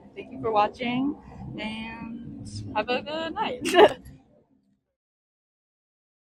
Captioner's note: laughs